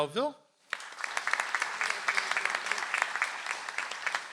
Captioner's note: audience applauds